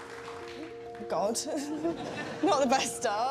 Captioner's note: laughter